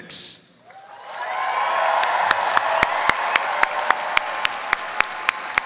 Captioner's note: audience cheers and applauds